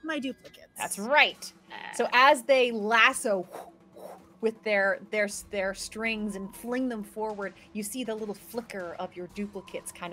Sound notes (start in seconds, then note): 3.7 blows